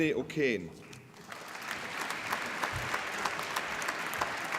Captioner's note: applause